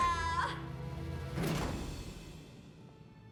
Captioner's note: slam